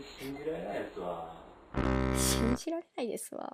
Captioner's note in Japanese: 効果音